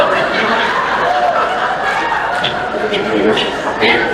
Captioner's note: laughter; cheering; laughter